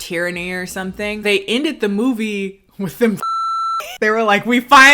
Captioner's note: beep